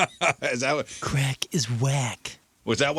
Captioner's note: laughing